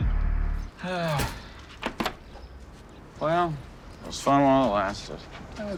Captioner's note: sighs